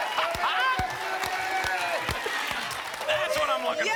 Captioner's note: applause and cheering cont